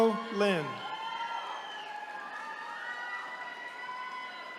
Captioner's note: attendees cheering